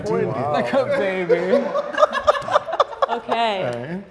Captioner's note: group laughs